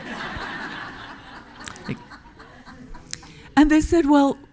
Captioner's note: audience laughing